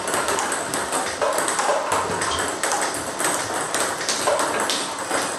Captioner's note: balls ping pong hitting continues